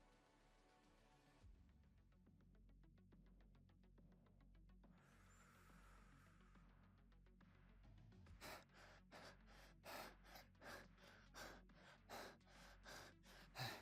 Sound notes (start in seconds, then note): 3.6 deep breath; 8.3 even more fast breathing